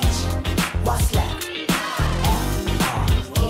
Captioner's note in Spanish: Fanchant